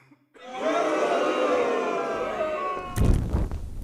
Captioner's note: people booing